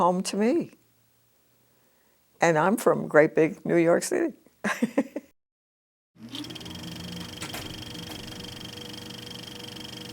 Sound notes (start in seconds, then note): 3.7 laughs; 4.5 clicking of film in the projector's sprockets